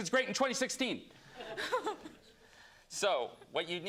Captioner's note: laughter